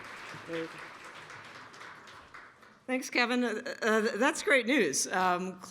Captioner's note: applause